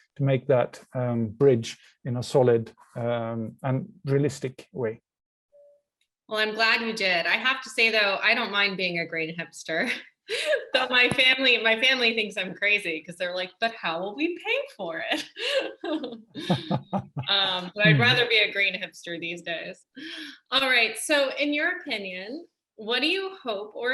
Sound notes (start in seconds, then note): 10.2 laughs; 15.3 laughs